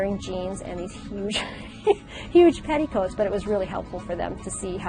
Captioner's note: laughs